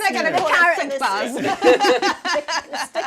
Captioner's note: laughs